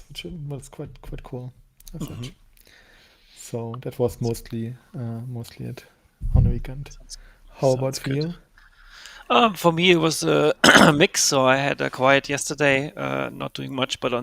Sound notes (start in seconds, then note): 10.6 clears throat